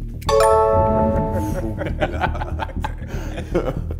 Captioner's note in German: Lachen